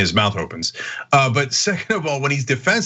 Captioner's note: laugh